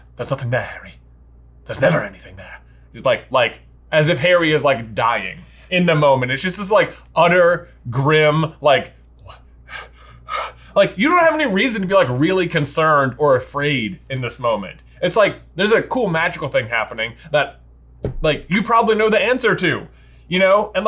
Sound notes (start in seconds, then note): 10.1 gasps